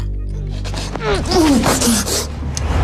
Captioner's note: whimpering